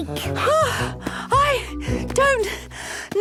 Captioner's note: panting